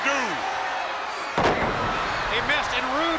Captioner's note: Dustin thuds